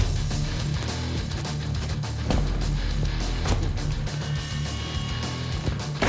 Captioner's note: blade impact sounds